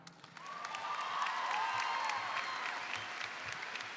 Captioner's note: audience cheers